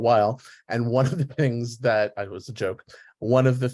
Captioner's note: laughs